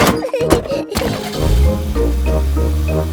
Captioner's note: laughing; car engine starts